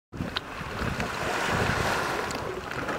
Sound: ocean waves

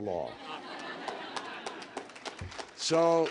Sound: laughter and applause

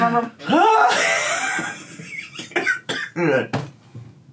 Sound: groans and laughs

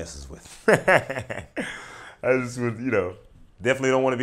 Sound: laughing

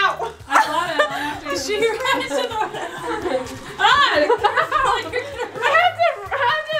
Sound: laughs

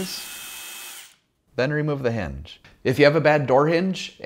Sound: screwdriver whirring

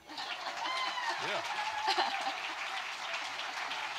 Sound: audience cheering

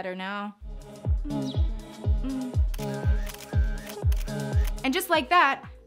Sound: camera shutters click

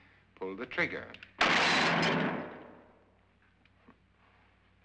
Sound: pot shatters; gunshot

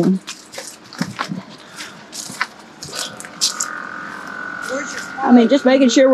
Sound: walking

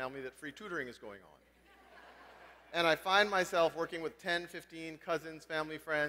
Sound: laugh

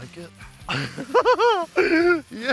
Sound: laughing

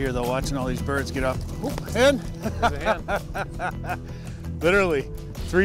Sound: laughs

